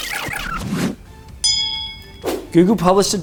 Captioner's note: bell dinging